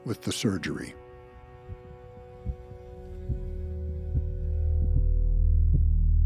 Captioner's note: heartbeat pounding